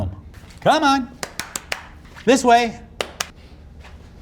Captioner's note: clapping